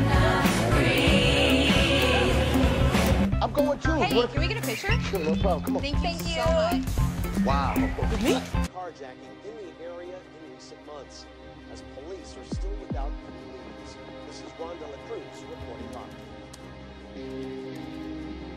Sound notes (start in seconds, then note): 9.0 news in the background